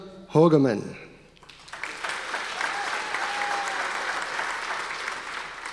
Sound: audience applause

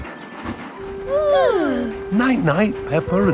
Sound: both yawning

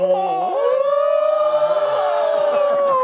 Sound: exclaiming

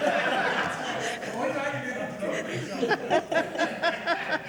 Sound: all laughing; speaks faintly; all laughing

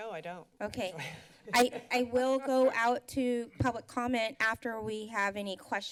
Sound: laughs

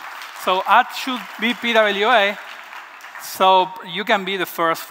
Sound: applause

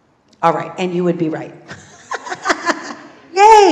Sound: laugh

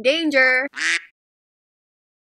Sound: quack

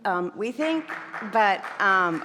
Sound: audience applauding

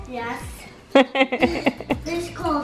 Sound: laughs

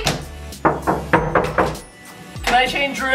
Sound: knocks

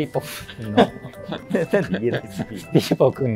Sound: laughing

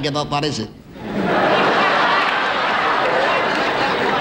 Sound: laughter

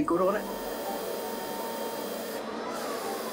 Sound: motor whirring

